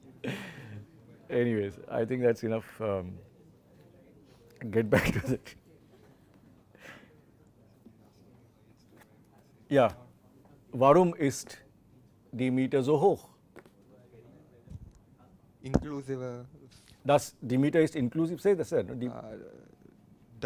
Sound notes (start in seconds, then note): 7.9 laughter